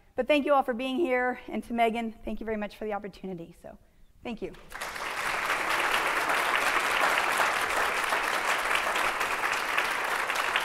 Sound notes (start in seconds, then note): 4.6 audience applauding